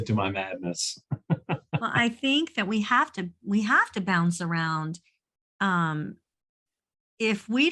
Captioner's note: chuckles